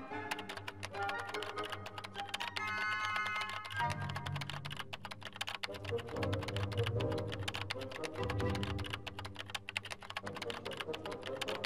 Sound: keyboard clicking

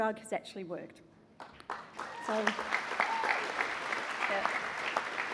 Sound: cheering and applause

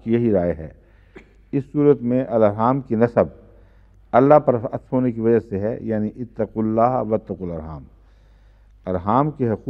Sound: Arabic

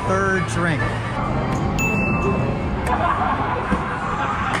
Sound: bell dinging; indistinct background chattering

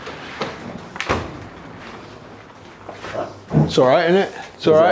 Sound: door shuts softly

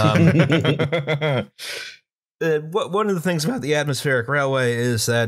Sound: laughter

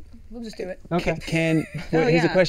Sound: laughs

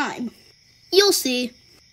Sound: crickets chirping

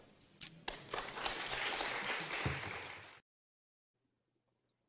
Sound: audience clapping

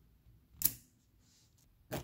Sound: snap

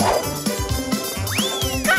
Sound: squeaking

